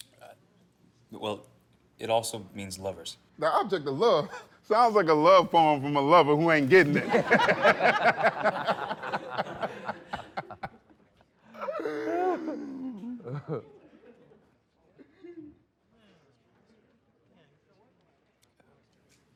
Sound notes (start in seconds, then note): 4.3 laughs; 6.7 laughter